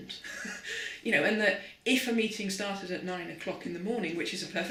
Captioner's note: laughing